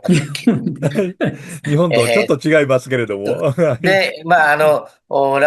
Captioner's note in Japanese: 笑い